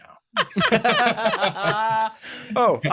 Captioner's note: laughter